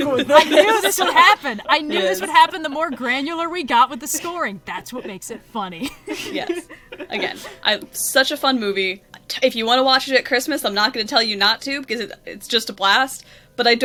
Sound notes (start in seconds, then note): 6.3 laughs